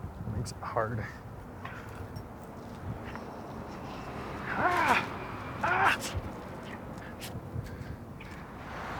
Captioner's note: yells